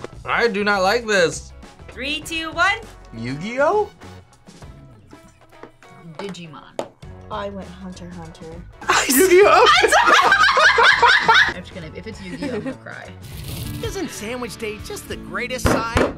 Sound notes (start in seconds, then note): 8.8 laugh